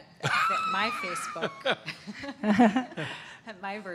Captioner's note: laughter